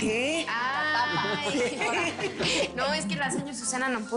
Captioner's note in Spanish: Risas